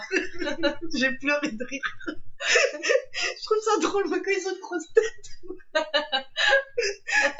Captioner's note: laughs